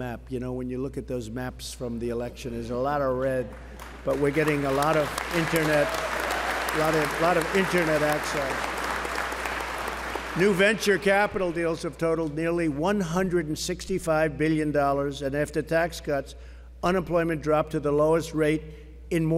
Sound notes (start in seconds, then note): 3.2 applause